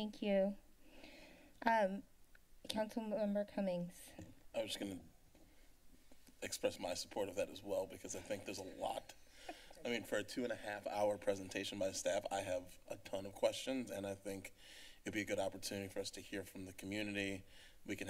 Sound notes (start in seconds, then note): 8.0 chuckles